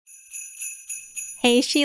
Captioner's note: bells Ringing